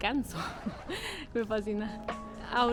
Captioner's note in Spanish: risas